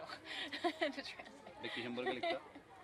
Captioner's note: laughs